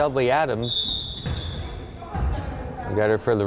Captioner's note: whistle blowing